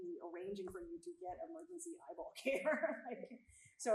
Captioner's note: chuckles